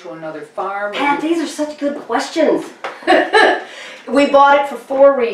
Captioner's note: laughs